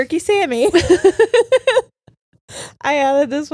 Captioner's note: all laughing